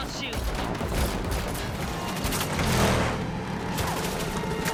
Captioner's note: gunfire